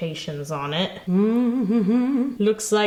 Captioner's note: humming